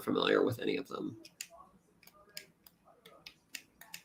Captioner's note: clicking